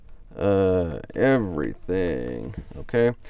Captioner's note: types on keyboard